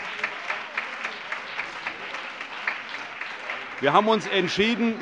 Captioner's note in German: Beifall